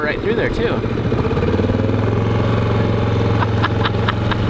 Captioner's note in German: Motor rattert; Gelächter